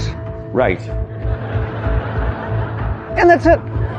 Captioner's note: audience chuckling